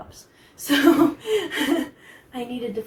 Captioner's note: laughs